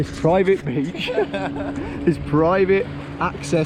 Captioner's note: both laughing